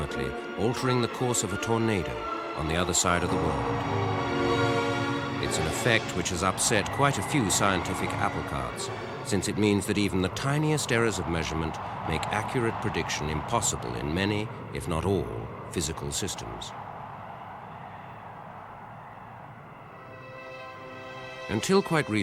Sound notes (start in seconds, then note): 17.7 wind howling; 19.9 classical music